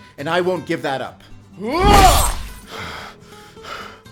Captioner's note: Alfonso shouts